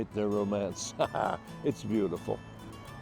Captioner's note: chuckles